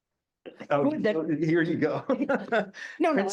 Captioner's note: chuckling